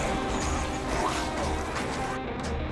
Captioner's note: snarling